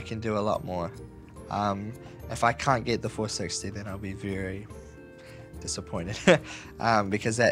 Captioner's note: chuckles